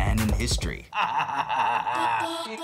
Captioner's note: maniacal laugh